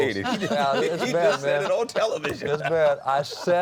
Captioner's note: laughs